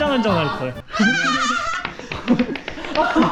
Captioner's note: laughter at the king